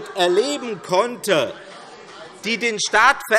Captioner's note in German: Zurufe DIE LINKE